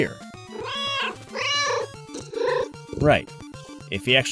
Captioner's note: meow, meow!